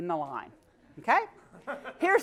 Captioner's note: laugh